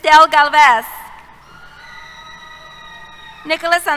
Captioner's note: cheers